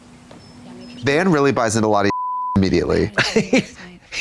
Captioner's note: beep; Katya laughs